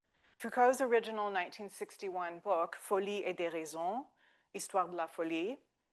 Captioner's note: speaking French